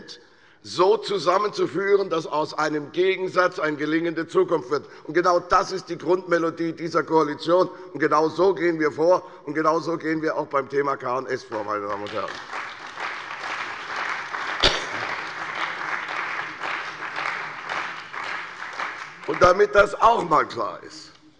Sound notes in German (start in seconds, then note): 11.4 Beifall bei der CDU und dem BÜNDNIS 90/DIE GRÜNEN